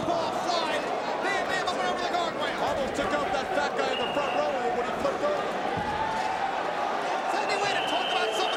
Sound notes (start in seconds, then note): 6.2 crowd cheering